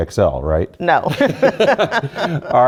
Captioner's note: laughter